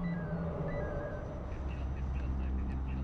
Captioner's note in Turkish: Telsiz sesleri